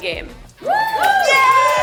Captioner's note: crowd